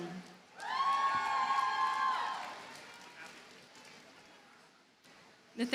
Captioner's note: audience cheers and applauds